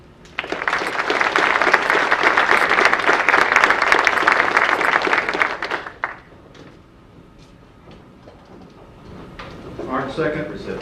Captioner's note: audience applause